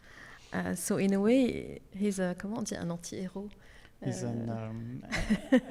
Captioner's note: speaks Arabic